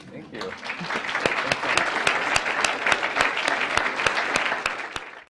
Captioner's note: claps